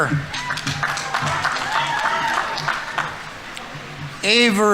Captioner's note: audience applauding; audience members cheering